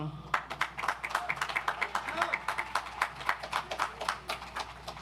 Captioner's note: audience applauds